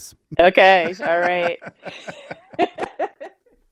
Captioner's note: laughs